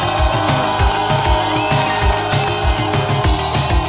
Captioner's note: applause